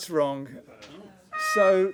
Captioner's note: sad trombone